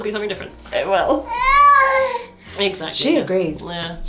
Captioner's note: baby exclaims